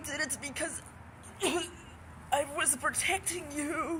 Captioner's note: cough